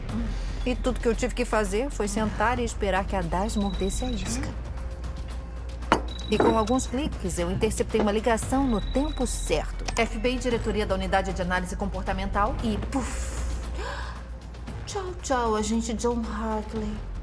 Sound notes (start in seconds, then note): 6.0 cell phone ringing; 13.7 gasps; 14.7 mockingly